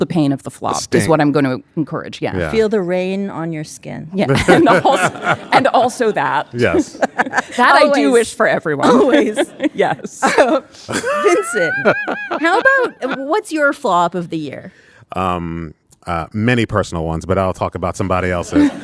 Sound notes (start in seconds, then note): 4.3 audience laughing; 6.6 laughing; 10.8 laughing